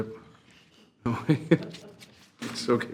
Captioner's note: chuckling